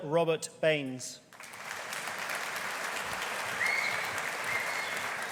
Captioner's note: audience applauding